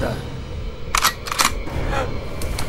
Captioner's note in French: Bruit de rechargement de pistolet